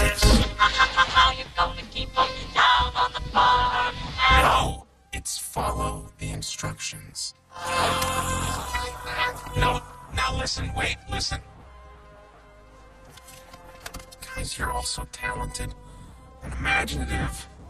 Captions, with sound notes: [SINGING] How you gonna keep 'em down on the farm? No! It's follow the instructions. [ALL GROAN] - Don't like that. - Sounds weird. Now, listen. Wait, listen. Guys, you're all so talented and imaginative.